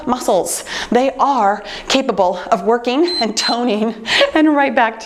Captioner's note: timer beeps